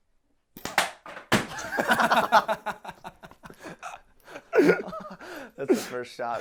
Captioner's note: blow gun shots; laughing loudly